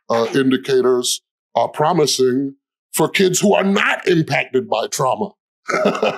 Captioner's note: laughing